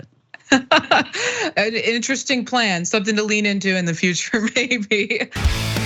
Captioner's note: laugh